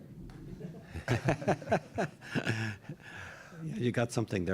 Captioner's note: laughter